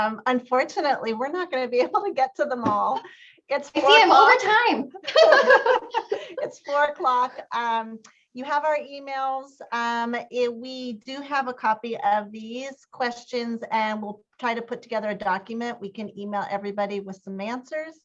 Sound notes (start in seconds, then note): 5.0 laughter